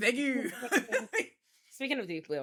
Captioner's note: laughs